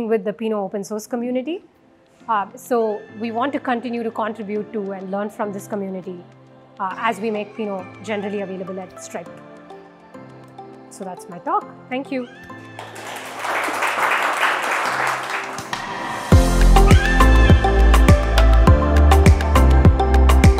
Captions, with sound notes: with the Pinot open source community. So we want to continue to contribute to and learn from this community as we make Pinot generally available at Stripe. So that's my talk, thank you. (audience applauding) (upbeat music)